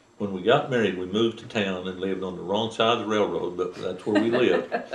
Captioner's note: laughter